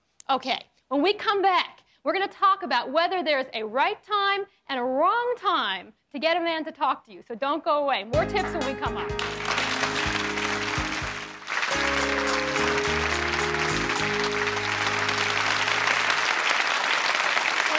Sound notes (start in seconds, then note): 9.1 applauding; 10.2 applauding and bright music